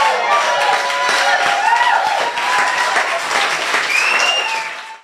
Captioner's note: applause